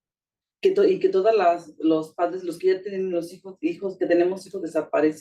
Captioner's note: speaking Spanish